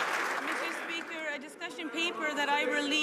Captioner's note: some Applause